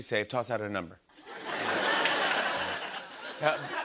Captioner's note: laughter